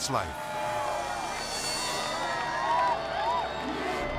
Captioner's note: villagers cheering